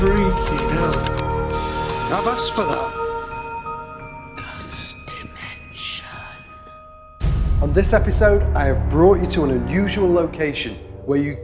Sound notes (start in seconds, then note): 4.5 creepy Whispering Voice